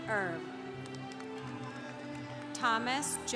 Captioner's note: congregation applauding